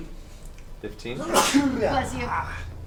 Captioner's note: sneezes dramatically